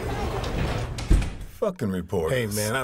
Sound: door slams

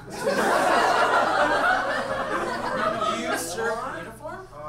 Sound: audience laughs

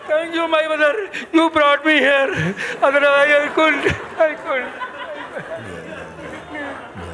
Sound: crying

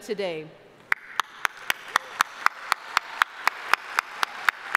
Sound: audience applauding

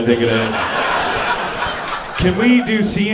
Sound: audience laughing

